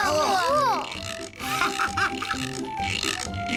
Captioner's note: all exclaiming